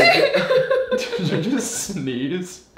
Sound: laughing

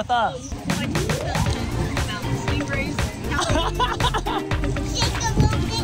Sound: laughing

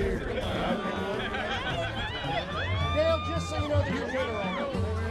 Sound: woman cheering

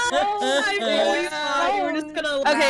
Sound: laughter

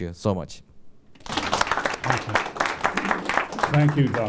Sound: applause

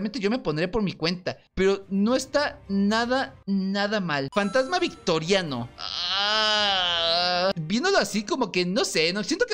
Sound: sound of disgust

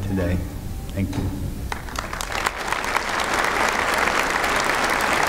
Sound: applause

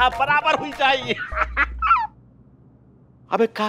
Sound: laughs

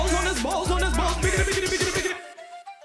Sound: vocalizing

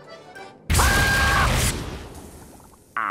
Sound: screaming

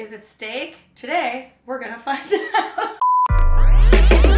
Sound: laughing; upbeat music

